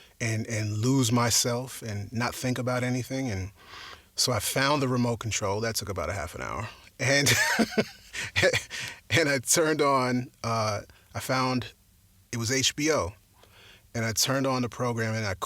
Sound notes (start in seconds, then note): 7.1 laughs